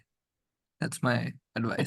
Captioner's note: laughs